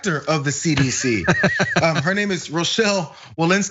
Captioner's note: laugh